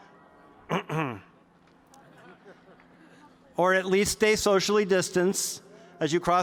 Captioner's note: clears throat